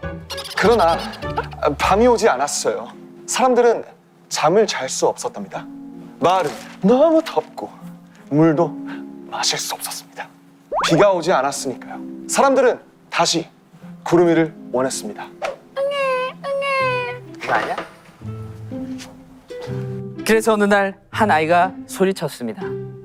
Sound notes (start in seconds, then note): 15.8 crying